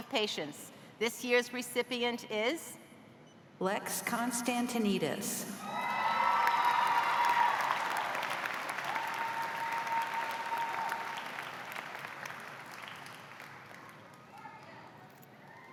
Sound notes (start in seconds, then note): 8.2 cheers and applause